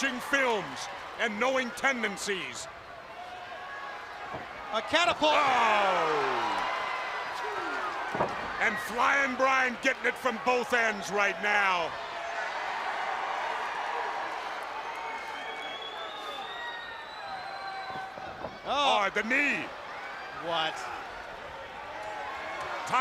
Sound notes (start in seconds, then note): 11.9 crowd cheering